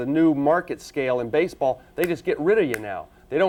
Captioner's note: fingers snapping